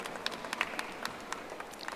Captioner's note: audience applauding